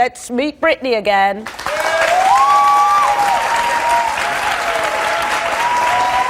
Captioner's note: audience claps and cheers